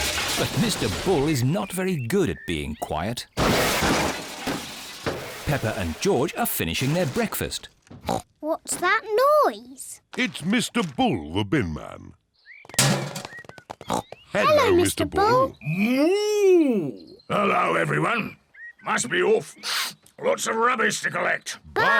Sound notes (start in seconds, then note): 3.4 clattering; 8.0 snorts; 12.8 bin clangs; 13.6 snorts